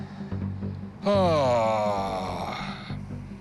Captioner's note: heavy sigh